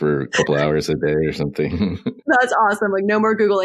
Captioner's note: both laugh